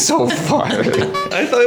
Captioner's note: laughs